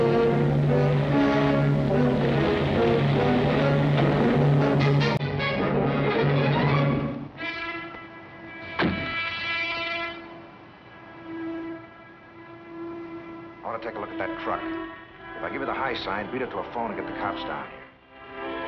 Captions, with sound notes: (dramatic music) (door closing) - I want to take a look at that truck. If I give you the high sign, beat it to a phone and get the cops down here.